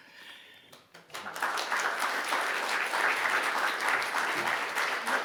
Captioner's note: audience applauding